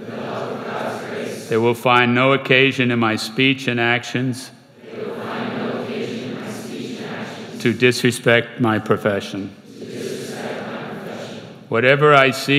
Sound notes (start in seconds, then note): 0.0 crowd; 4.7 crowd; 9.6 crowd